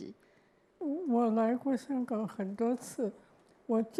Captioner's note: Mandarin